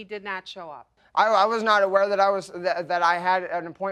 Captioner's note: stammering